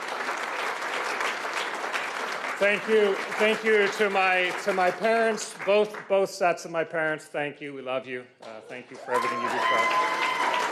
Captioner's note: cheers and Applause